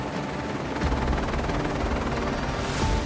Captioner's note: blades whirring